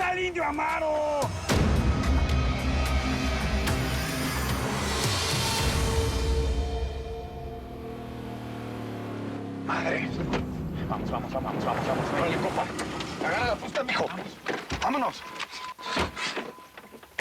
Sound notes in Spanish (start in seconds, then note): 8.8 Sonido del motor